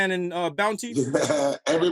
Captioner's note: laughter